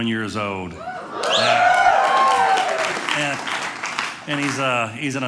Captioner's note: audience cheering